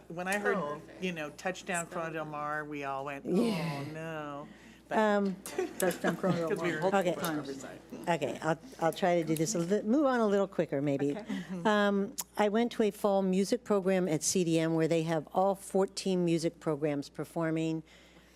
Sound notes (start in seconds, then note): 5.5 laughs